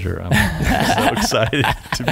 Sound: laughing

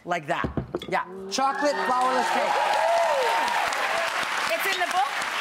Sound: audience cheering

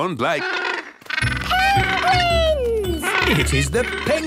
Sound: honking

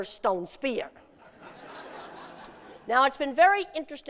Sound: laughter

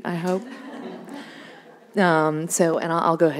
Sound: audience laughing

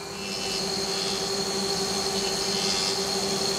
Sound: whirring

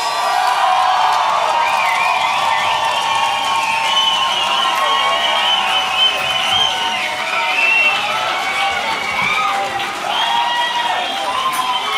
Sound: cheering

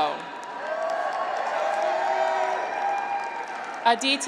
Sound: graduates cheer

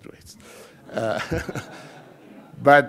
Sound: laughing

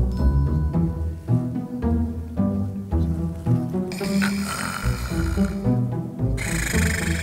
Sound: snoring

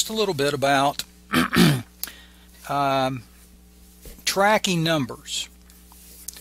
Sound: clears throat

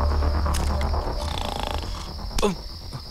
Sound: snoring

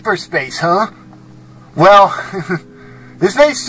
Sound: chuckles

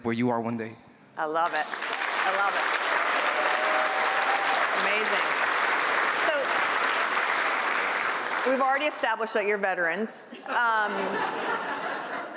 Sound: applause

